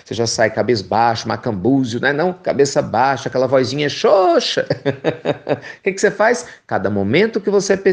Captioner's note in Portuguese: risos